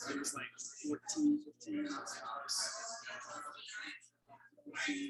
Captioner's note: people chattering indistinctly